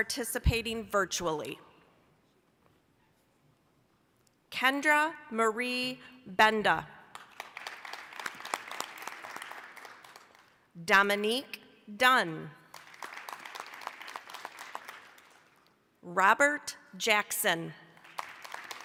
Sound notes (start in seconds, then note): 7.1 applause; 12.6 applause